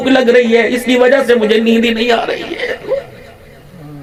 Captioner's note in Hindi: हंसी